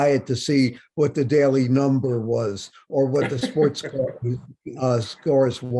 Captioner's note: Bob laughs